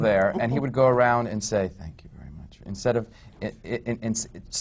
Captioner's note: whispers